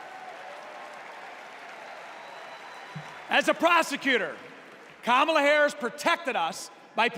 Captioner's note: applause